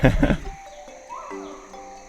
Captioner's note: chuckles; chimp hooting